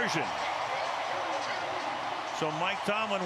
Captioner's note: cheering